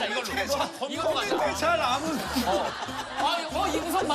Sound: keep laughing, haha

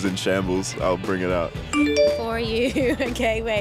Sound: phone chiming

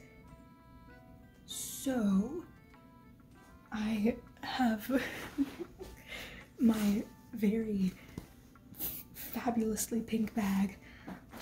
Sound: chuckle

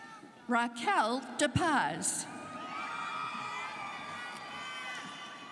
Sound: students cheering

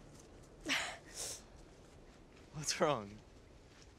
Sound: laughs

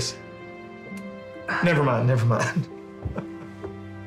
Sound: laughs

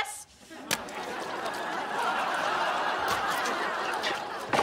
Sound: audience laughing

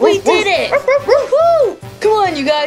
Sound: Rubble barking

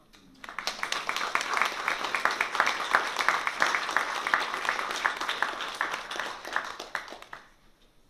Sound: applause

